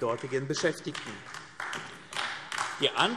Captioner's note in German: Beifall AfD